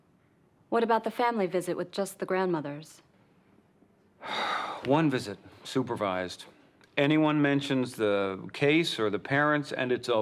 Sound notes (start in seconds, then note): 4.2 sighs